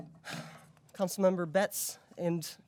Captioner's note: sighs